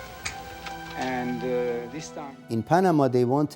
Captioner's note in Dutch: mompelend